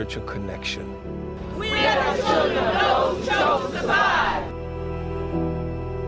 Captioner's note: crowd chanting